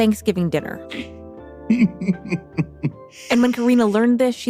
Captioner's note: laughs